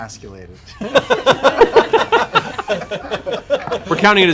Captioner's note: laughter